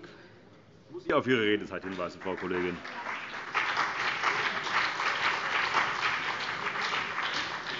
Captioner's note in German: Beifall BÜNDNIS 90/DIE GRÜNEN und CDU